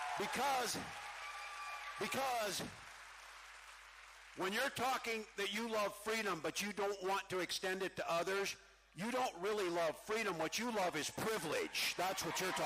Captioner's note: cheering